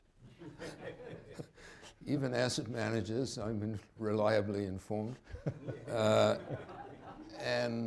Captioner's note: laughter